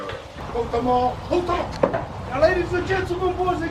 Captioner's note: speaking foreign language